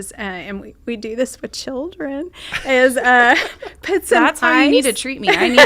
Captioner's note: laughing